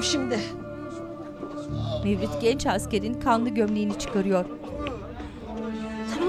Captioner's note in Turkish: İnleme sesleri